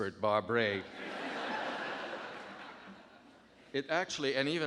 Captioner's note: audience laughing